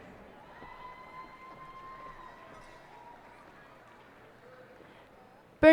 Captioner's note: cheers and applause